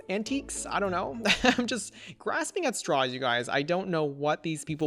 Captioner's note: laughs